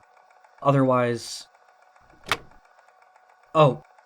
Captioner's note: door clicks